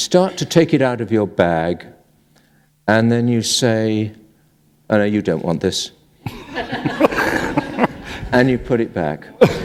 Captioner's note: laughter